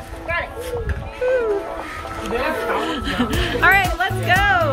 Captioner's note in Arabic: ضحك